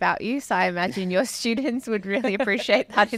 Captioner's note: laughing